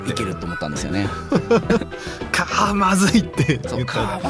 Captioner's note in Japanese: 笑い